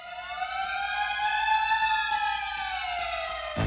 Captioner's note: siren